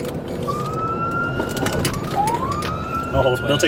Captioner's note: sirens